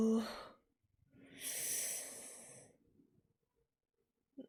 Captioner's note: sharp inhale